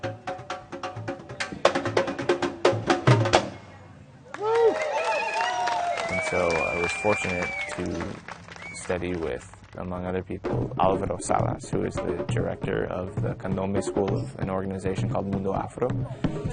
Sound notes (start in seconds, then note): 0.0 drumming; 4.3 cheering